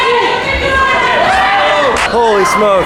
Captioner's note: yelling